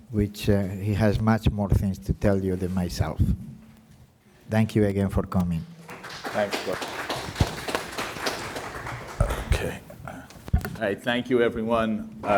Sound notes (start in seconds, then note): 7.7 audience applauding